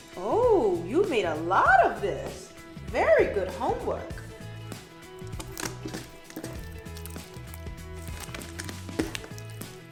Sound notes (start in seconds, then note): 5.1 beads clink together